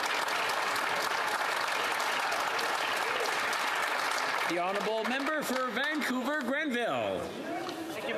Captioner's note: some Applause